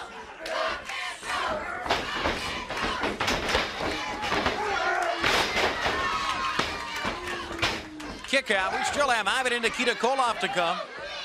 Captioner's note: crowd cheering